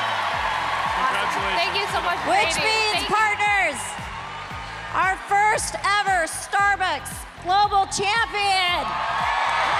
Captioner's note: cheers and applause